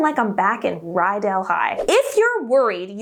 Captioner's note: air whooshing